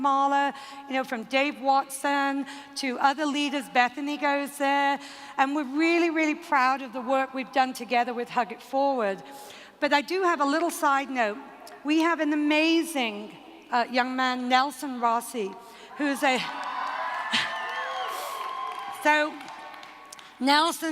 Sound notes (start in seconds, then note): 15.9 cheering